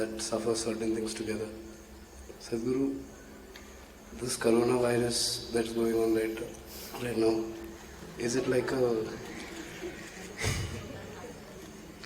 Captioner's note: laughter